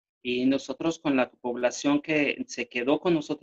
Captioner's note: speaking spanish